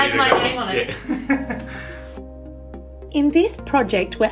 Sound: chuckling

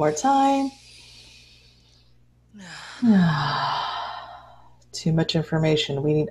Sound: inhales and exhales

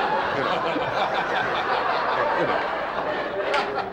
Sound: audience laughing

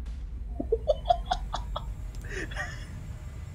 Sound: internal laughter

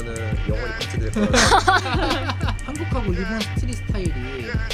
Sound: laughs

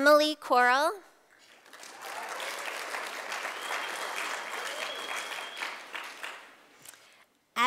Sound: sound of applause from audience

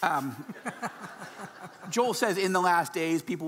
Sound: laughing

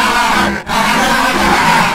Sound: daleks chortle; daleks chuckle

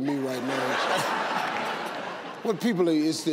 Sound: audience laughing

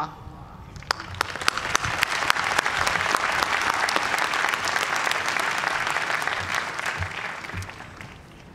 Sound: cheers and applause

